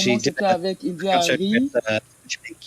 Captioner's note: speaks in French